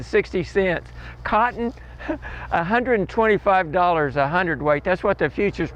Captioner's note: laughs